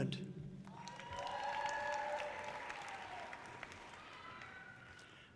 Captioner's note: audience cheering loudly